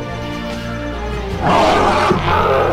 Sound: roaring

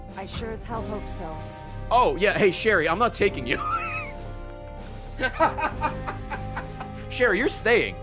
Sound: laughs

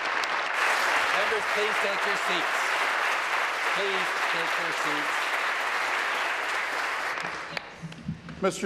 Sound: applause

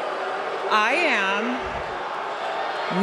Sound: audience Reacts; booing

